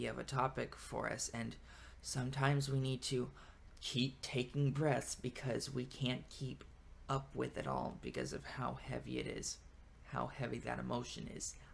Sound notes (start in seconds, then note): 1.6 breathes